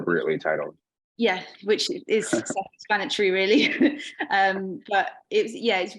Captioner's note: chuckling